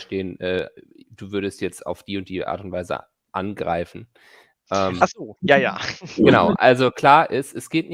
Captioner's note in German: lacht